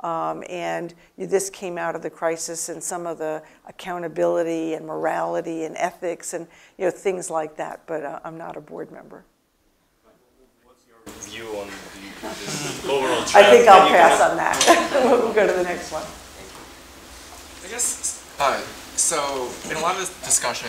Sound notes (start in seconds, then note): 14.6 laugh